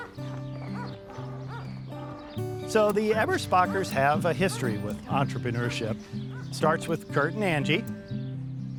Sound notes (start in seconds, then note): 0.0 dog barking; 1.4 gentle guitar music